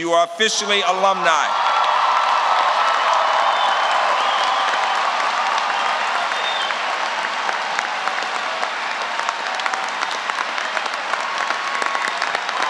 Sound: applause

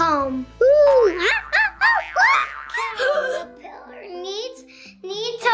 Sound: monkey screeches

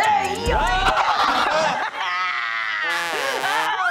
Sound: Devlyn laughing; record scratch; slide whistle; wah wah trombone; screams

